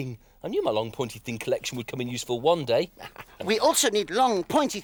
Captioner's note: laughs